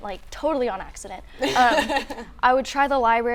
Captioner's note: laughing